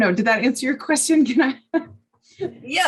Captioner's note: laughs